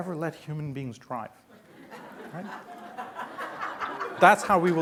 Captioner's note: laughing